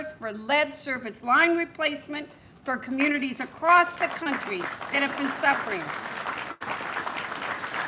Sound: applause

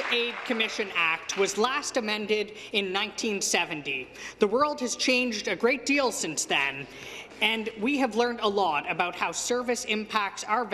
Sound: some Applause

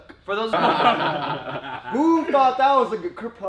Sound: laughs

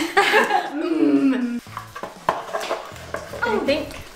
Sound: laughing; mimics mm

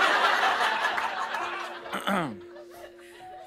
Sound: laughter; clears throat

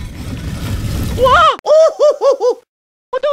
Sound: yelp

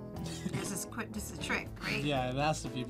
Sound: laughs

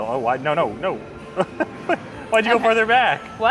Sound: laughs

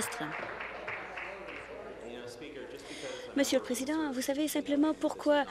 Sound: applause

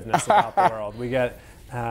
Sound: laughing

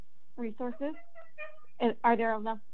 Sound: children chattering

